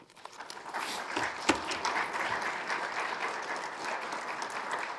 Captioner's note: attendees applauding